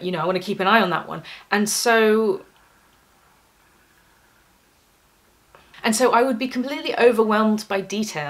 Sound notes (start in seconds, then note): 2.5 silence